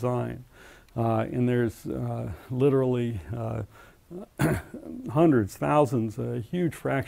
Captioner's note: cough